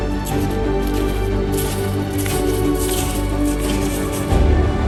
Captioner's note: sound of walking in the snow